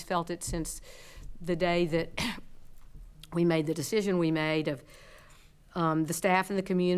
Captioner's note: coughs